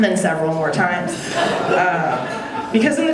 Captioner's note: audience laughing